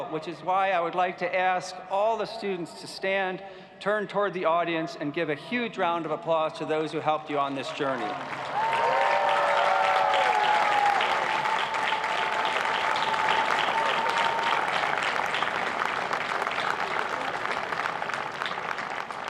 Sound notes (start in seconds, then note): 9.7 cheers and applause